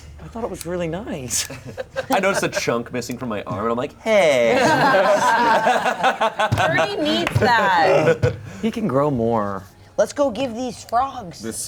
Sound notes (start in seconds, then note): 1.7 chuckles; 4.4 players laughing